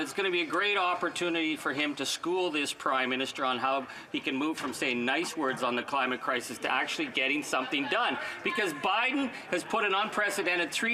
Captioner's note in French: voix de l'interprète